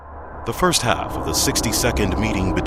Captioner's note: voiceover